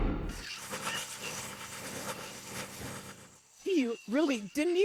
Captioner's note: cranking sounds